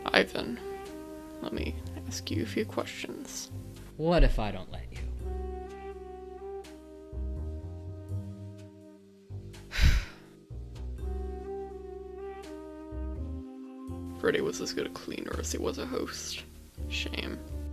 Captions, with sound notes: - Ivan, let me ask you a few questions. - What if I don't let you? (Martin sighs) (gentle music) - Freddy was as good a cleaner as he was a host. Shame.